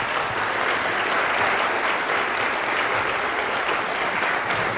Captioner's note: applause